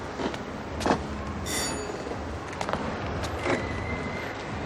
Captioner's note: doorbell rings